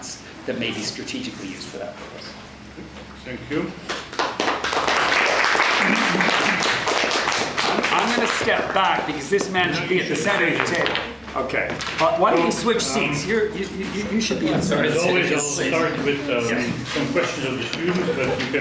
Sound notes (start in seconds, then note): 3.9 audience applauds